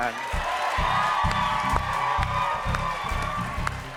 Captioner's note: cheers and applause